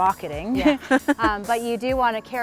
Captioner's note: laughs